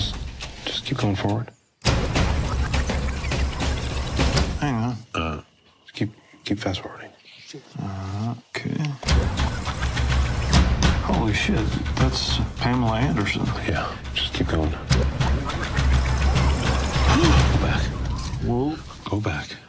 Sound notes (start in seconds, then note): 1.8 tape running; 8.9 tape running